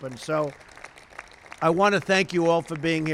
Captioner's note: applause